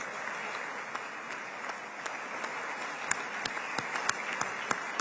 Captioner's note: applause